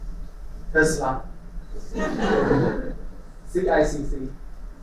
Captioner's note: laughter